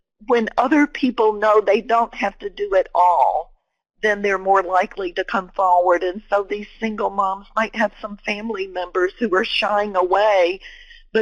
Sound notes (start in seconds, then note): none